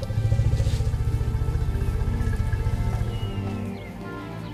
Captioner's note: elephant rumbles